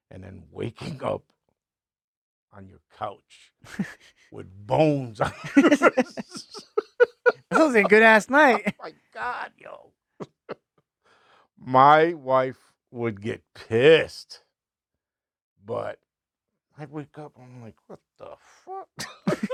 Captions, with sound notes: and then waking up on your couch with bones on your face. (laughing) This was a good ass night. Oh my God, yo. My wife would get pissed, but I wake up and I'm like, what the fuck?